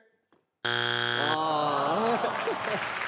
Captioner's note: buzzing; laughing; audience applauding